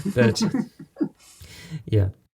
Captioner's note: laughing